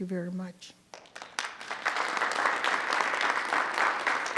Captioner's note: group applauds